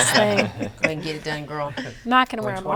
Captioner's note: all laughing